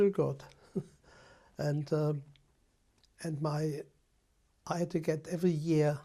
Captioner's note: laughs